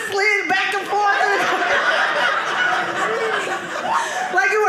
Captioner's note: audience laughing